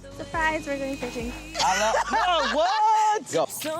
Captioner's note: laughs